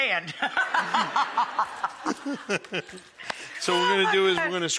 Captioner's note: audience laughing; Rachael and Buddy laughing